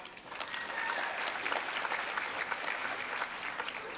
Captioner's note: applause